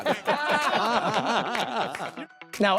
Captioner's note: laughing